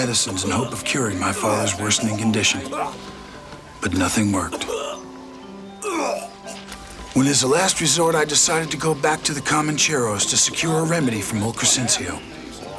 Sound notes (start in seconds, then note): 4.5 Anthony coughs